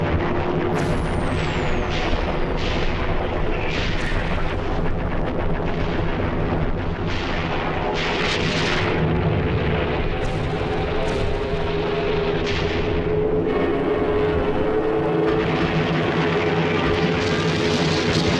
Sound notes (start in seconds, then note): 0.1 plane engines rumbling; 2.7 explosions booming